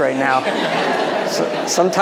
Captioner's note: audience laughing